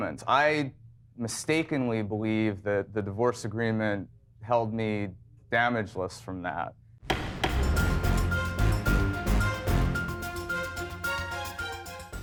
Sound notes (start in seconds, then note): 7.1 gavel thudding; 7.1 suspenseful music